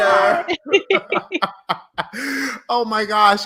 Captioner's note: laughing